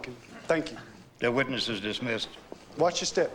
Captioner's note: people murmur